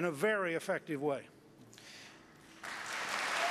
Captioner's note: applause